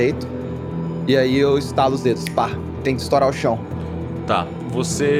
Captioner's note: snap